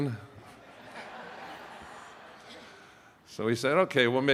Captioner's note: attendees laughing